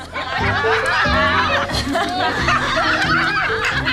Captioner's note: laughing